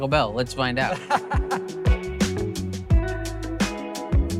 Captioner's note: laughs